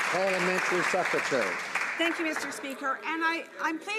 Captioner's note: some Applause